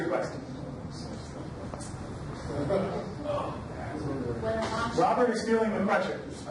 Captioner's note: overlapping chatter